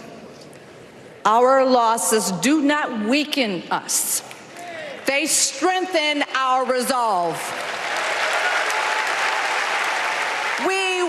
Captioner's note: applause